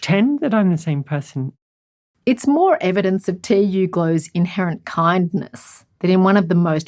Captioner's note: voiceover